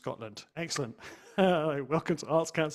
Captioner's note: chuckles